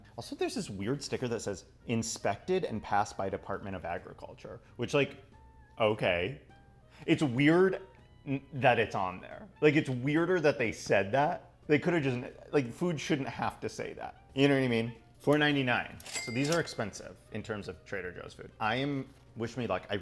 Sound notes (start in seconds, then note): 16.0 register ka-ching